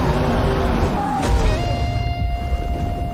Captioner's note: dragon roaring